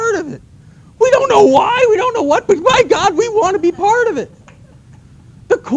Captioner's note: laughter